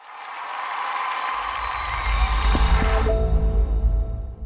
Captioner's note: cheers and applause